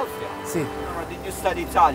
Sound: speaks Italian

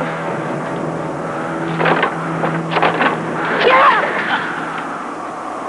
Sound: stomping; wind whistling

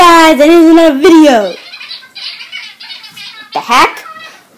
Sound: cartoon phone talking

